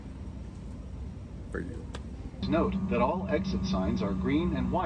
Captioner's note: on speakers